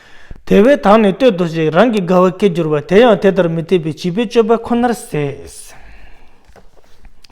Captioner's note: tibetan